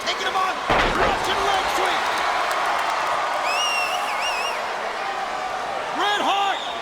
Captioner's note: crowd cheering